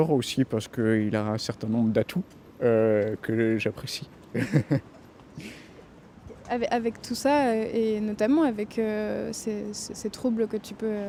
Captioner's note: laughter